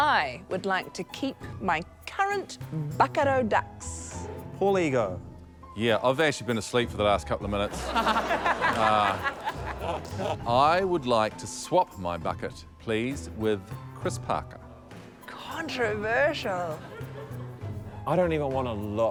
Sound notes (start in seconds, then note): 5.6 laughter; 14.8 laughter